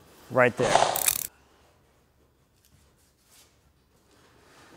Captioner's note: sign whooshing